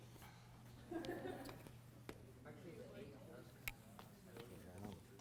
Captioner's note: laughter